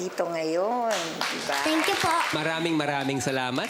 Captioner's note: applause